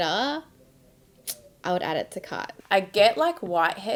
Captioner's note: clicks tongue